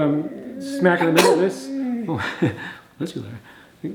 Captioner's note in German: niest